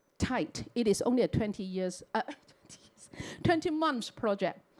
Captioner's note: chuckles